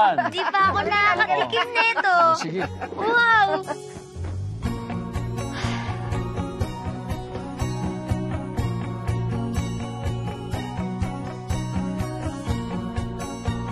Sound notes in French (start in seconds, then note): 0.9 laughs; 5.4 exhales deeply; 6.5 bright music playing